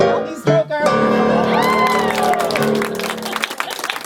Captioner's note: clapping and Laughter